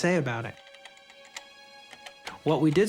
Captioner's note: keyboard clacking